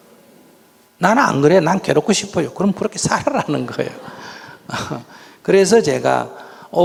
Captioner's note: audience laughing